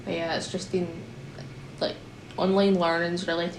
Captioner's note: none